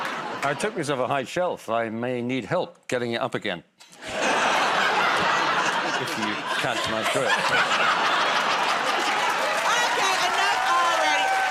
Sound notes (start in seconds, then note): 0.0 laughter; 4.0 laughter